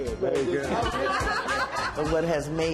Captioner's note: laughter